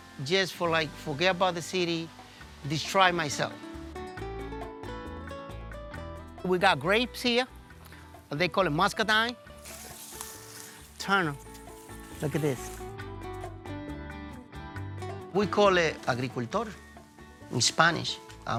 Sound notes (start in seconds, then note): 3.9 relaxed bachata continuing; 9.4 leaves rustling; 13.1 relaxed bachata music continuing